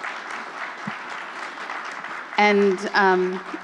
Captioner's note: applause